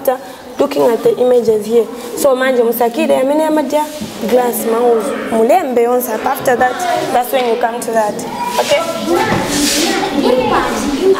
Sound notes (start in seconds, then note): 3.9 local language; 10.9 children talking